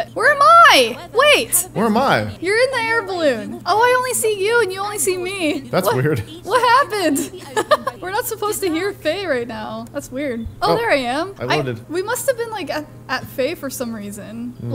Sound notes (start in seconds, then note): 7.6 laughs